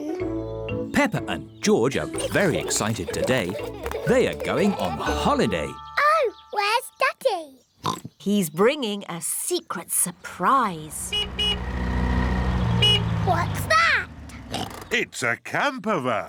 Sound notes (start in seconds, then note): 7.8 oinks; 10.8 horn honks; 14.5 oinks